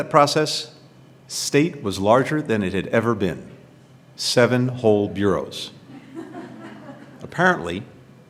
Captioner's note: laughter